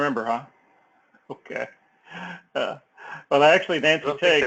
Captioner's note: laugh